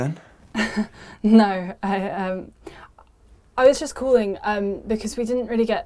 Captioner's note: chuckles